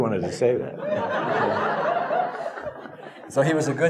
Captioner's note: audience laughing